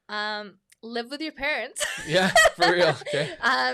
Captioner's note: laughs